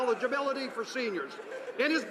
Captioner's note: some applause